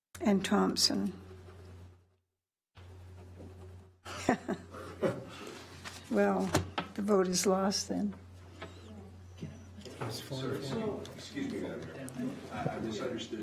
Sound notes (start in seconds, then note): 4.1 chuckles